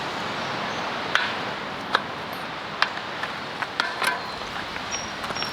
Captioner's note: metal sounds; birds